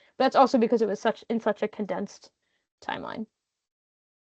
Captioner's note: none